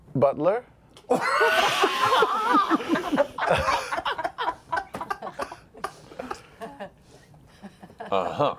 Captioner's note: laughter